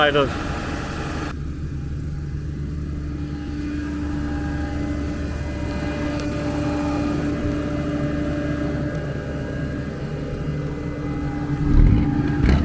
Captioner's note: engine roaring